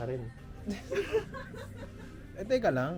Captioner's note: laughter